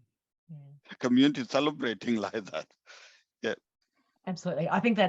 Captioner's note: laughs